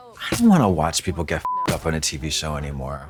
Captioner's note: beep